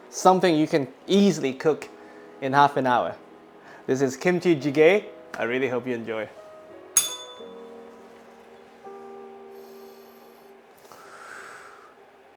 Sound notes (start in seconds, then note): 7.0 bell rings; 10.8 exhales